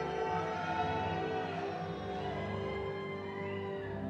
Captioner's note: audience cheers